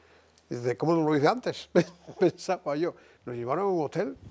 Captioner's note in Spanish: Ríe